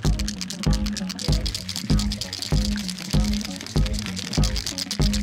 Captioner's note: paint cans rattling